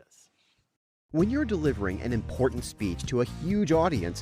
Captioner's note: voiceover